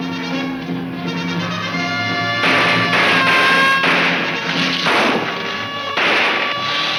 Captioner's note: siren blaring; guns firing